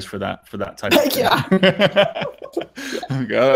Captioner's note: laughing